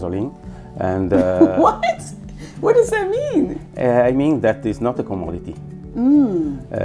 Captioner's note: laughs